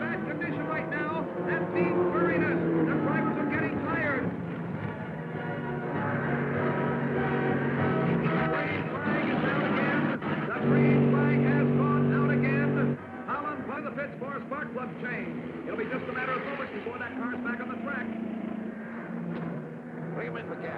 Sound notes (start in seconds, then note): 4.8 dramatic music; 5.7 cars revving